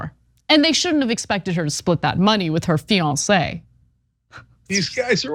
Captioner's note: laugh